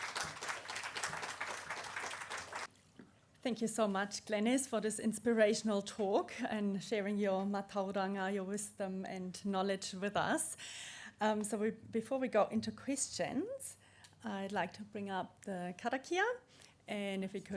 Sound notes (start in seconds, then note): 2.0 applause